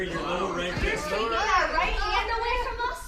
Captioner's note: shouting